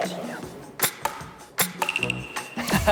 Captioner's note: clink